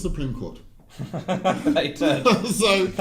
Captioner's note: laughing